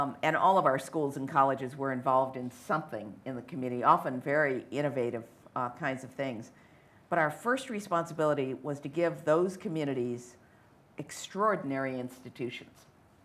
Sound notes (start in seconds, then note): none